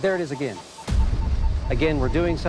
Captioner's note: beeping